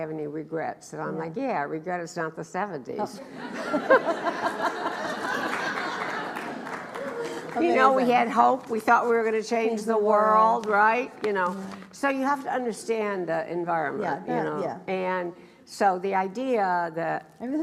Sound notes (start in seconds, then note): 3.3 laughs; 5.2 applauds